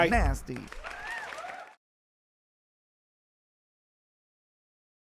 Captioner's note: audience clapping